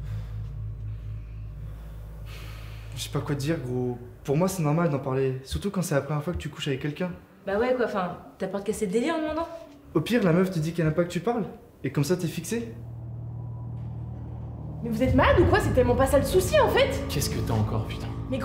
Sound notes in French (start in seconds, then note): 0.0 il soupire